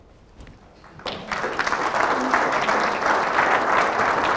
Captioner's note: applause